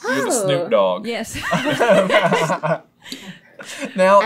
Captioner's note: laughter